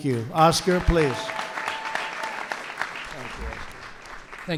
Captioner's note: applause